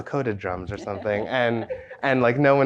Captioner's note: everyone chuckles